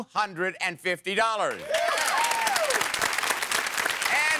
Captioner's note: audience applause